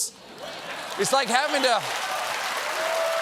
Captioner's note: applause